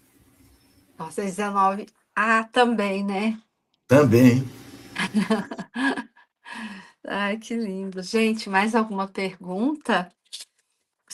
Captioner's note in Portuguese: risadas